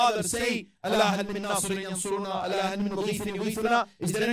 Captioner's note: Arabic